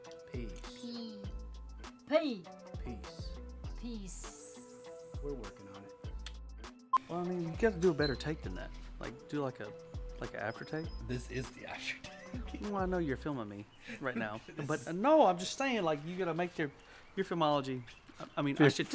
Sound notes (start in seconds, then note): 6.1 kisses; 6.3 beeping